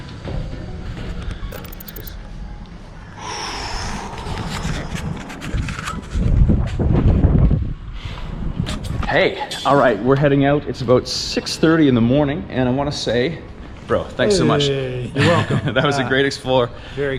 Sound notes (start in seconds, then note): 3.1 breathes out; 15.2 laughs